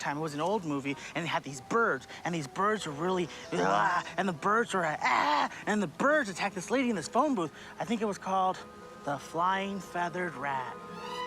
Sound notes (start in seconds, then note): 3.5 groaning; 5.1 yelling